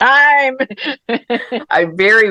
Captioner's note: laughter